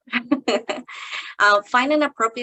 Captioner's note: chuckling